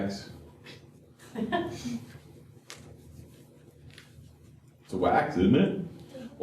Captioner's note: laughter